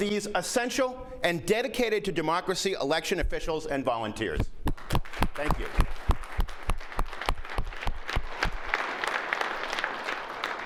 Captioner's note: applause